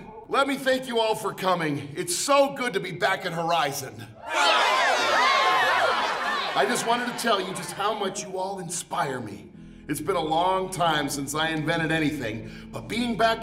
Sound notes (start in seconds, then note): 4.2 cheering